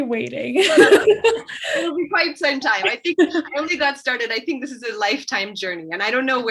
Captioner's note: laughs